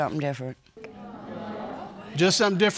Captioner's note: audience exclaiming